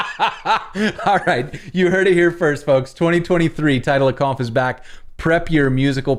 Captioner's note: laughter